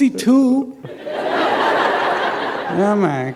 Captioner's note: laughter